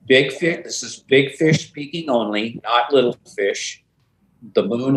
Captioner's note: none